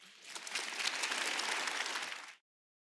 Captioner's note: attendees applaud